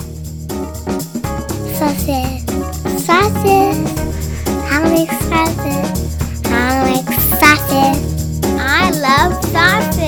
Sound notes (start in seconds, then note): 1.9 child's voice; 7.9 another child's voice